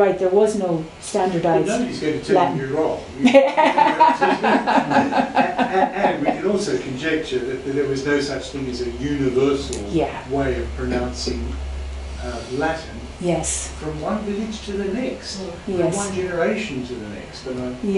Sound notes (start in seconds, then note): 3.3 laughs